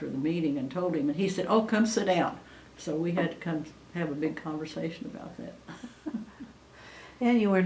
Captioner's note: laughs